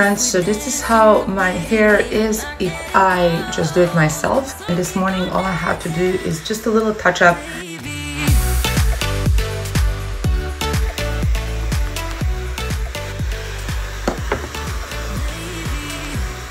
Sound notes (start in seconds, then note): 8.1 lively upbeat music; 11.4 Laifen hair dryer whooshing